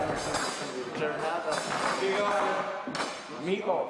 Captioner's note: chatter; clattering; voiceover